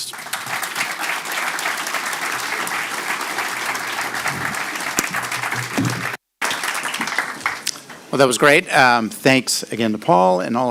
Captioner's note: applause